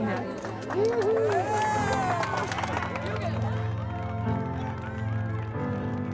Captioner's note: crowd cheering and clapping